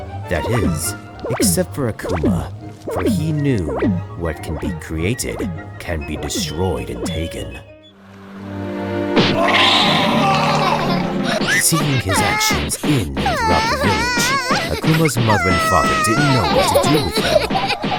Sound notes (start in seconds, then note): 9.3 screaming; 10.8 laughing